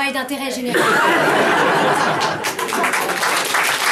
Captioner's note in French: rires; rires et applaudissements